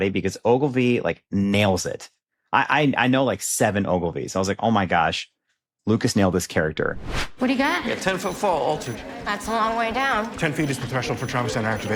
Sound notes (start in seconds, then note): none